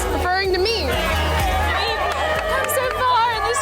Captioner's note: upbeat music; women cheering